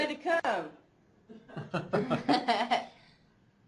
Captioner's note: laughter